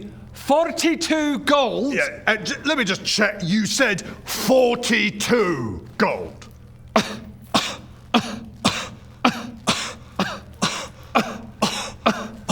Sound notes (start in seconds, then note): 6.9 kuh